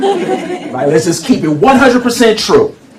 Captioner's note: laughter